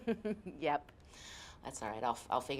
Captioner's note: laughs